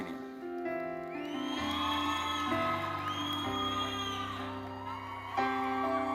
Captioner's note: audience cheering and applauding